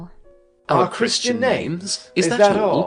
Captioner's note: speaking together